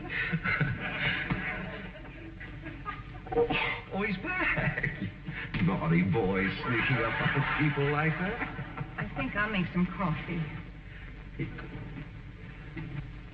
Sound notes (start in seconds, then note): 0.0 audience snickering; 9.9 chuckles